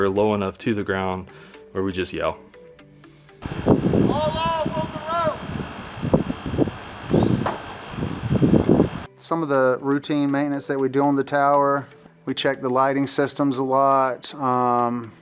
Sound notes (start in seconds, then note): 4.3 yelling; 7.0 wind blowing